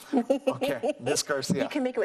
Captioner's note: laughs